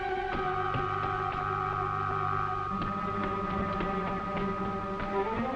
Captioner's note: high-pitched droning